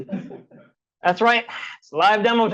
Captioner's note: professor swooshes; audience laughs